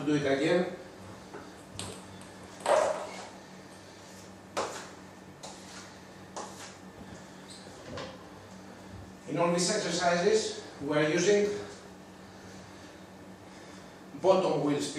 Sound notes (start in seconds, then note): none